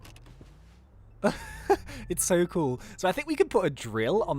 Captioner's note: laughs